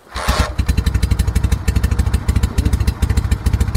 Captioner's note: engine starts